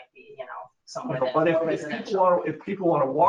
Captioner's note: speaking faintly